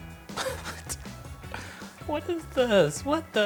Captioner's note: laughing